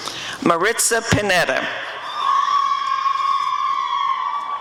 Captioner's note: applause and cheering